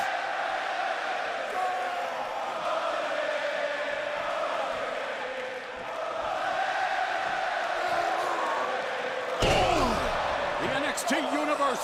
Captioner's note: crowd cheering